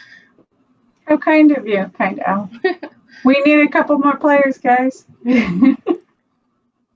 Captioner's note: laughs